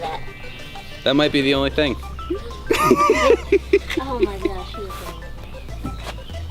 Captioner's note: laughter